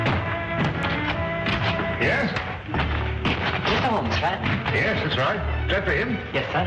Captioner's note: knock on door